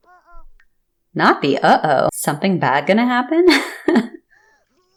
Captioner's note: laugh